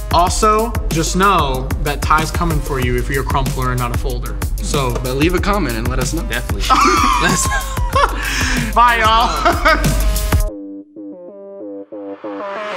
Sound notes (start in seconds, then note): 6.6 laughing; 9.9 techno music